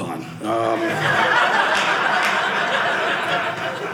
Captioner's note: audience laughing